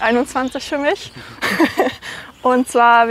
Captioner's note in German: Lachen